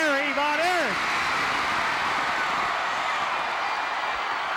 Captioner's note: audience cheering